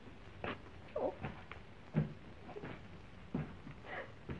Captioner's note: whimpers